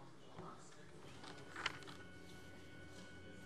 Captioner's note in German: none